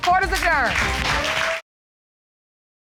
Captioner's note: audience applauding